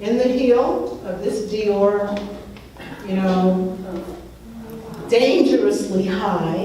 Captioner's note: laughs